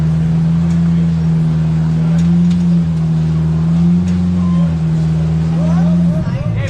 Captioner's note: engine revving